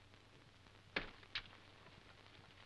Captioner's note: none